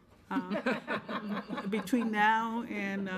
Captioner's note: members laughing